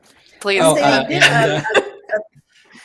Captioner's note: laughter